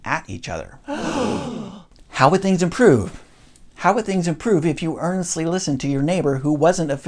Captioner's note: crowd gasps